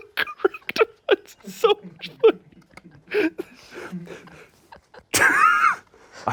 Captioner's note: laughs